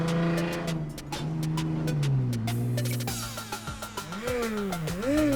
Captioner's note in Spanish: imita sonido de auto